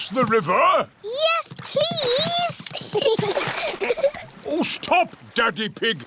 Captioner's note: giggles